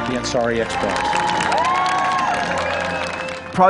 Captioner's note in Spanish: Aplausos